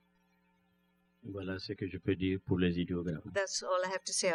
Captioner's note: speaking french